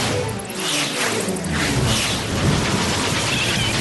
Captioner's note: whoosh!